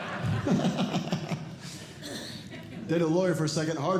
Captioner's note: audience Laughing; laughs